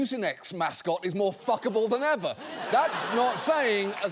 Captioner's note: studio audience laughing